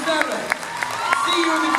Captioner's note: cheers, applauds